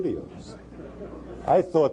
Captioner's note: laughter